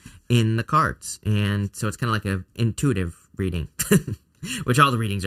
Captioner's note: chuckles